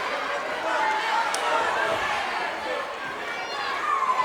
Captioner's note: crowd chattering